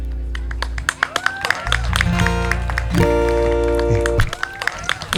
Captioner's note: applause